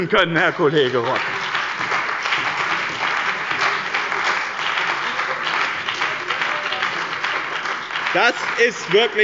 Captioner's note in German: Beifall bei dem BÜNDNIS 90/DIE GRÜNEN und der CDU